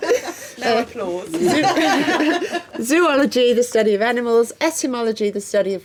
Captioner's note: laughing